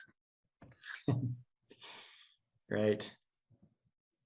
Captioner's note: chuckles